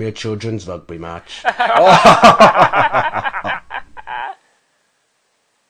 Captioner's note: all laugh